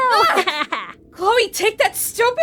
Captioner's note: laughs mischievously